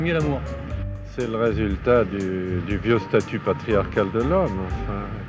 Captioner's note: interviewee speaking French